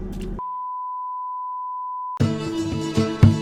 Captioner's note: beeping